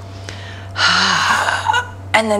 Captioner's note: exhales